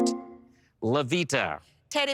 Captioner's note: electric chime